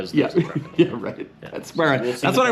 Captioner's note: laughs